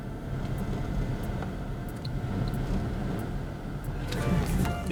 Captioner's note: camera whooshes